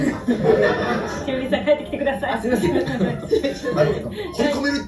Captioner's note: laughs